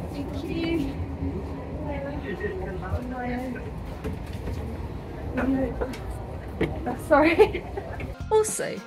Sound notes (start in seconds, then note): 7.0 laughing